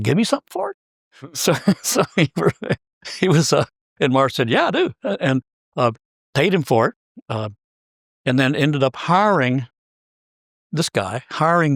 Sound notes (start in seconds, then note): 1.2 laugh